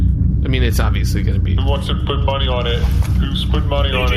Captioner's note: quietly